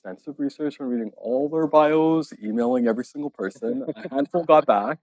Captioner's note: laughing